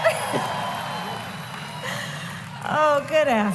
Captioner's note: applause